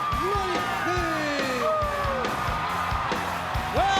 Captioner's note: crowd cheering